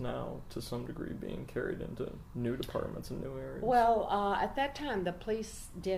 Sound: none

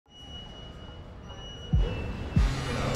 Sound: machine beeping; machine buzzing

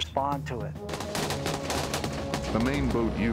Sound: gun fires; voiceover

